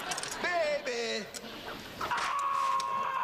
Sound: whip cracks

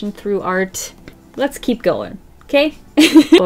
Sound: laughs

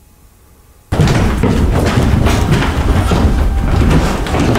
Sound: loud footsteps

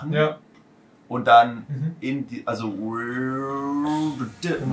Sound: imitating low end rumble

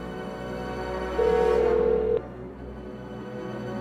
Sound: dialing

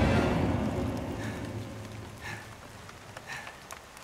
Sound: raindrops patter; victim repeatedly exhales

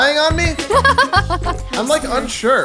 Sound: laughing

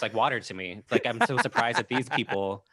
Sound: laughing

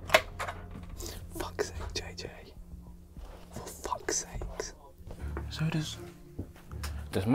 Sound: whispering

